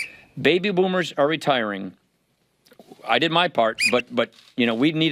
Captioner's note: whistle; whistle